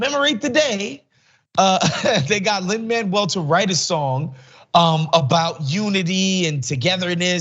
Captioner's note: laugh